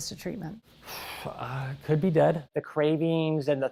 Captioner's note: sighs